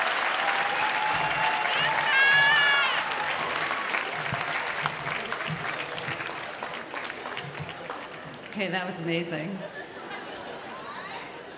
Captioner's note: applause